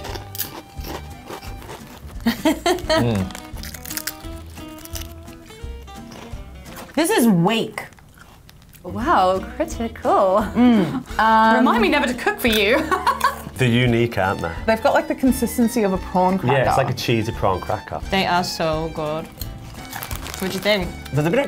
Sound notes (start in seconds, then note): 0.0 both munching; 2.2 laughing; 2.3 both munching